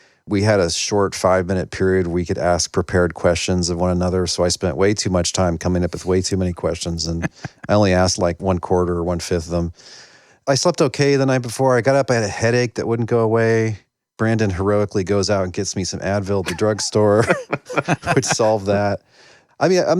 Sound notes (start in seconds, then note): 16.4 laughter; 16.4 laughing